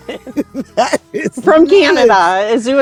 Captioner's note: laughing